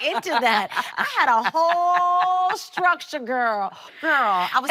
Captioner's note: laughing